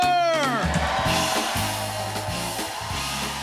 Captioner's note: cheers and applause